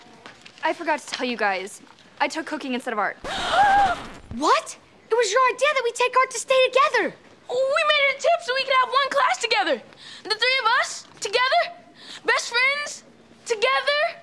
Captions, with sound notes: I forgot to tell you guys. I took cooking instead of art. [gasping] What? It was your idea that we take art to stay together. We made a tip so we could have one class together. The three of us, together. Best friends, together.